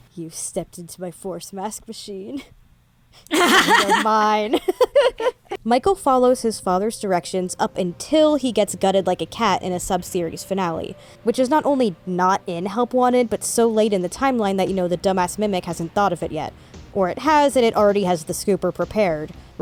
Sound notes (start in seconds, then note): 3.2 laughs